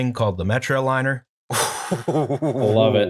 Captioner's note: laughter